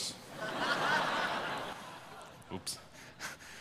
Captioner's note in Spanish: Risas